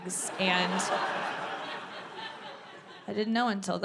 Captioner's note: audience laughing